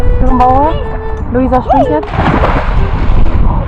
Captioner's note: speaking German